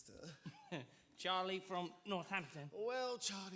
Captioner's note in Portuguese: laughs